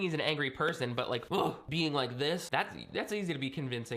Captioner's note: grunts